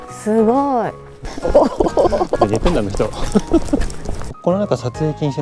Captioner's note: laughs